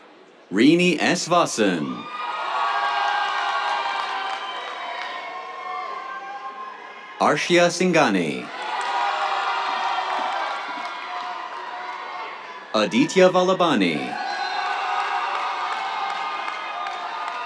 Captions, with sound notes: Rini S. Vasan. [CHEERS, APPLAUSE] Arshia Singhani. [CHEERS, APPLAUSE] Aditya Vallabhani. [CHEERS, APPLAUSE]